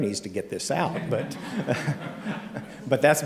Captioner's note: laughter